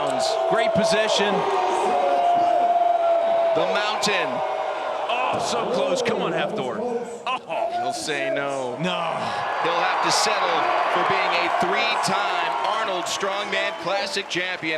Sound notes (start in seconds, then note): 1.6 crowd Cheers